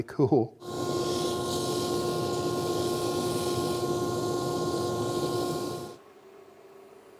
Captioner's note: sanding